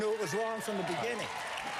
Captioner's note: applause